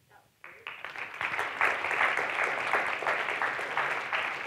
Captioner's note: applauding